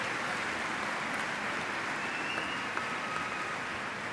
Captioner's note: cheers and applause